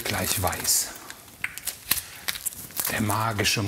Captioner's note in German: Knistern, Knacken